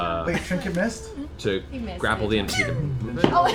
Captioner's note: ricochet sound; laughter